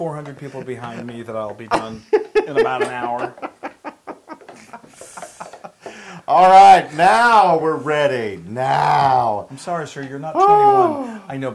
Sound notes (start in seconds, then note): 5.1 laugh